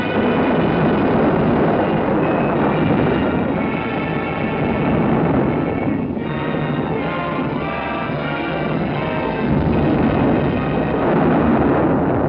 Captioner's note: thunder rumbling